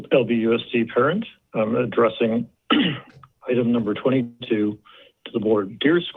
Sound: clears throat

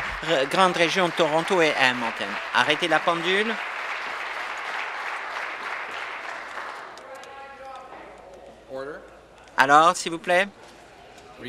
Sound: applause

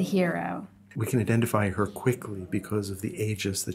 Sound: voiceover

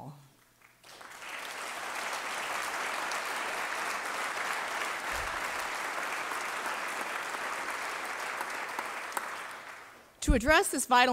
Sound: applause

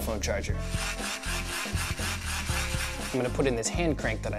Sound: whirring

